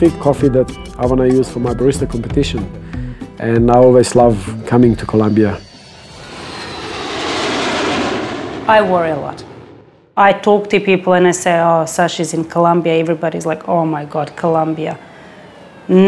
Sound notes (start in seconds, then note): 5.8 plane engine running